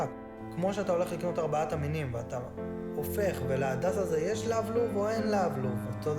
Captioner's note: Hebrew